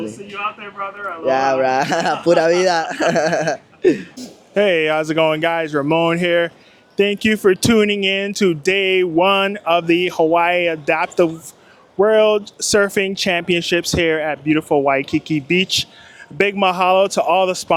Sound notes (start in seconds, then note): 2.6 speaking foreign language